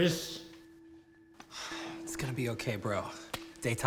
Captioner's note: sighs